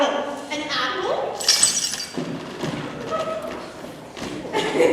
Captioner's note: glass breaking; ianthe laughs